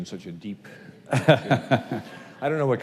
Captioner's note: laughs